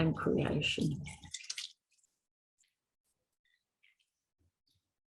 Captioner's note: clay squelching